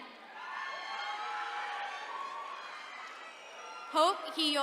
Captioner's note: attendees cheering